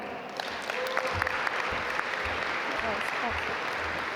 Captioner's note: audience applaud